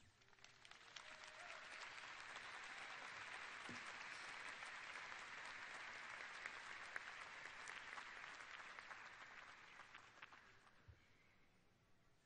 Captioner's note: applause